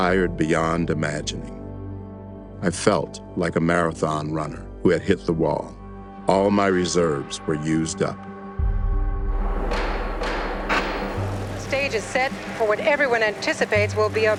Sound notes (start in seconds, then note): 9.6 gavel banging